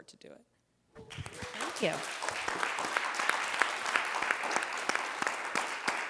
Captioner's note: audience applauding